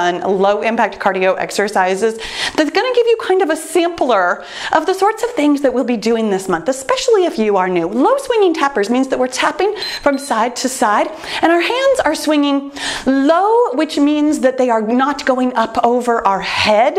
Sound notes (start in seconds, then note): 9.7 timer beeps